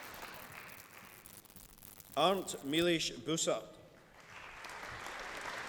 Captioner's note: applause